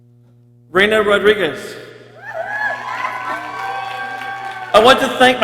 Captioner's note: people cheering